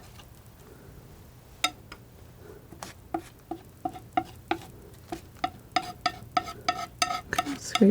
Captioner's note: tapping